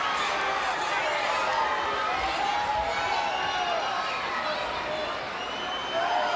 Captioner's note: crowd cheering; crowd whistling